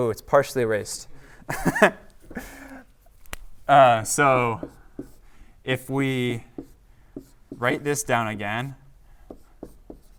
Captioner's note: laughter